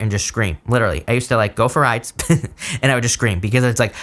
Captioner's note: chuckles